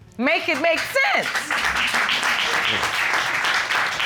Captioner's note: applause